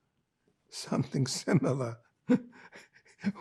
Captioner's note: laughing